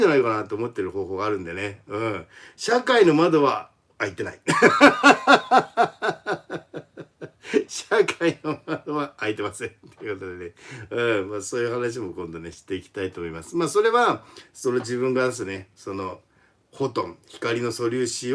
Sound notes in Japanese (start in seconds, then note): 4.5 笑い